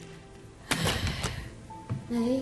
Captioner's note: sighs